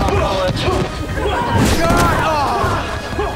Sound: grunting

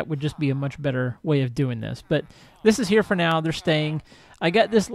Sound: chattering continues

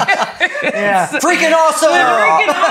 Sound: laughs

